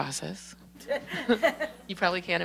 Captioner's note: laughter